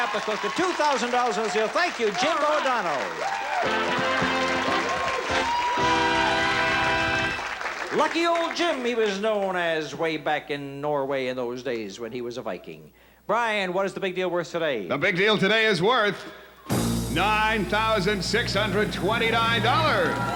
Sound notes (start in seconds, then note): 3.6 theme music playing; 5.8 audience cheering